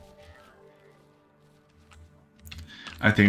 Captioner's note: silence